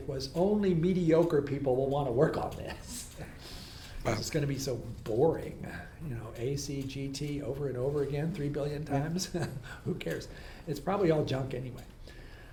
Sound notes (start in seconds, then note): 8.9 laughs